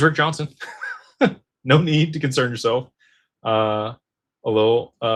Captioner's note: laughter